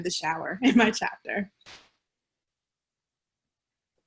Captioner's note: laughter